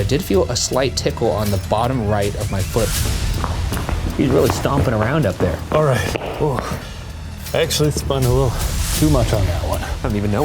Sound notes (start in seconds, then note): 2.0 loud footsteps stomping; 3.5 dramatic music